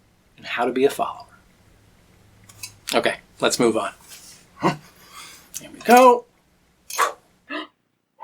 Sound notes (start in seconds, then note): 7.0 makes throwing sound